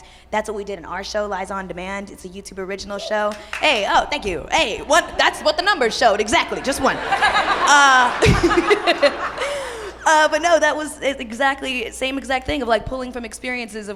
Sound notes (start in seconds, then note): 3.3 light audience applause; 7.8 audience laughs